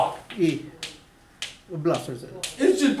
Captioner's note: voiceover